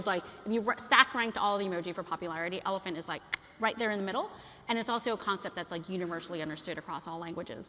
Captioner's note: คลิก